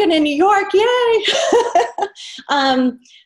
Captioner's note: laughs